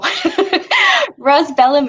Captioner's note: chuckles